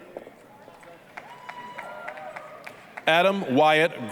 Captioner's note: applause, cheering